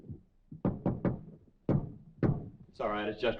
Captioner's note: knocking on door